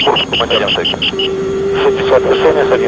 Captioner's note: decision height alert